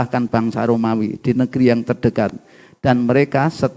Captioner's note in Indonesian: none